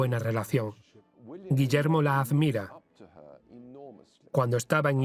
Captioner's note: voiceover